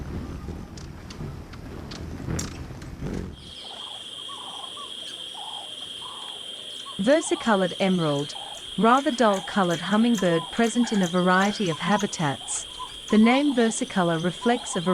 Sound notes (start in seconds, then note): 1.9 bird cooing; 1.9 birds chirping